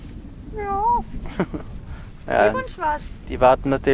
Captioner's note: imitates dog